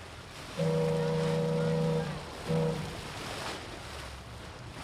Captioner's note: boat horn blaring